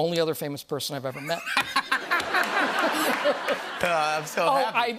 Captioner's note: laughter